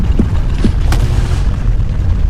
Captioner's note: transformer explodes